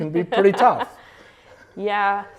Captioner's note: laughs